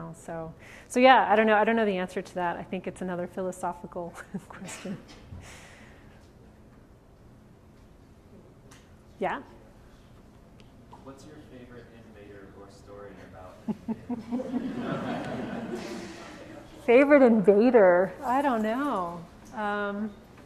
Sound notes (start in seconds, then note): 13.6 audience laughs